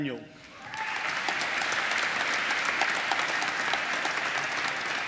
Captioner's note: applause